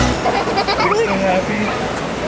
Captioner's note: giggling